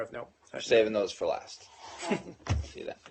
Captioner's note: laughter